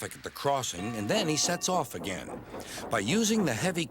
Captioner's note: dings bell